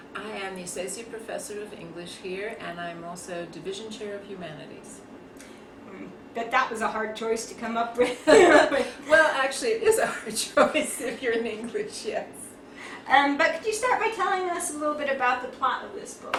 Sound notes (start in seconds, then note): 8.0 laughter